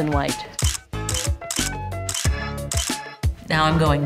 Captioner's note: pictures clicking